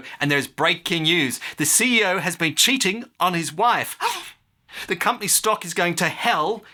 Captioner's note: gasp